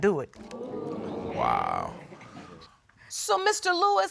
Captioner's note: audience exclaiming